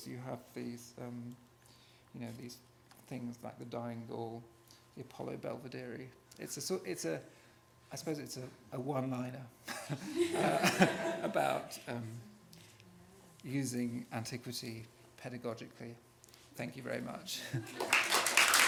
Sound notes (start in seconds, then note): 10.0 laughs